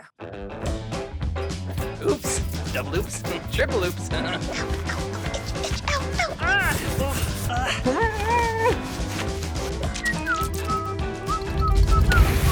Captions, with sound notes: (mischievous music) - Oops, double oops, triple oops. (groaning) (whistling)